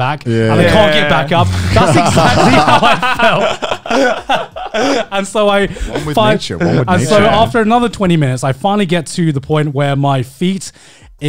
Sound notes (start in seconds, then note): 2.6 all laughing